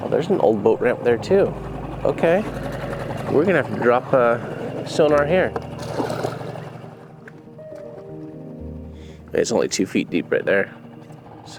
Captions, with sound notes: Well, there's an old boat ramp there too. Okay, we're gonna have to drop a sonar here. (water splashes) (somber music) It's only two feet deep right there.